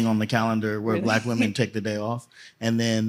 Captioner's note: laughter